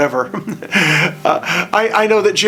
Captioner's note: laughing